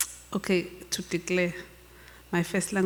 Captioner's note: speaks Zulu